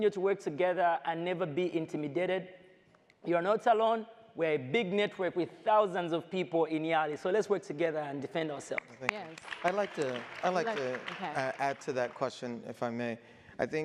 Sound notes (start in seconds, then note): 10.6 audience applauds